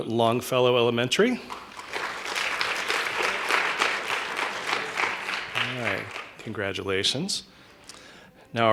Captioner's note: applause